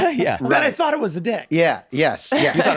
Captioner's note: laughs